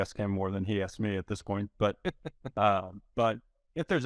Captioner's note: laughing